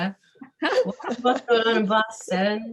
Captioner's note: laughing